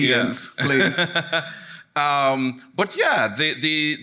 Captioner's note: laughs